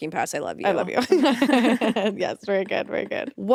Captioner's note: both chuckling